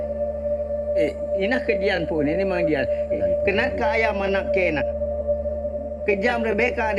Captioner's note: speaking in foreign language